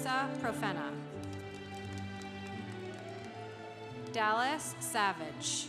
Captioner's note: congregation applauding